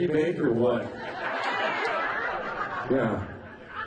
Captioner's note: laughing